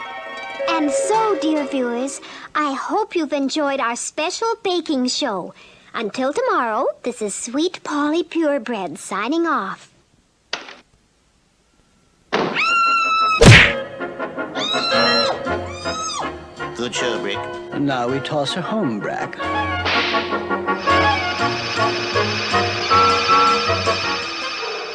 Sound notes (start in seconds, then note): 9.9 door Opens & then Closes; 12.6 Sweet Polly Screams; 13.4 smack!; 14.6 Sweet Polly Screams